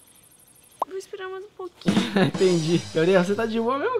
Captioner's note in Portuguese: Risada